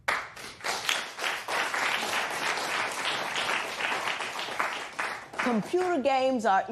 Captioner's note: applause